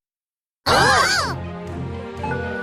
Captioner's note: rallying cries